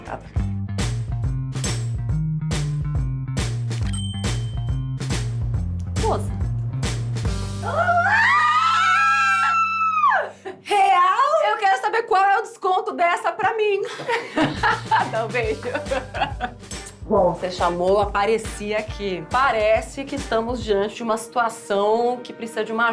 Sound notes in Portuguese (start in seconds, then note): 0.7 música agitada; 3.8 sineta tocando; 7.6 gritos